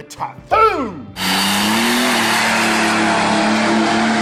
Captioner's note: engine revving